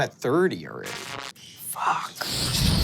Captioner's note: whispers; imitates explosion